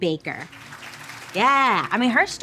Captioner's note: people applauding